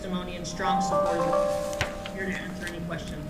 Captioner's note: phone chiming